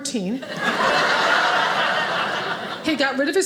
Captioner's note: audience laughing